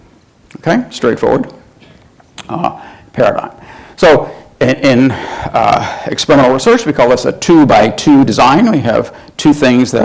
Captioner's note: sighs